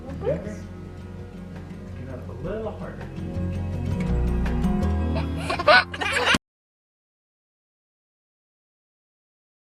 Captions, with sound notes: - More burps? - You okay? You can pat a little harder. (laughing)